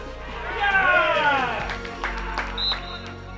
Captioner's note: crowd cheers; clapping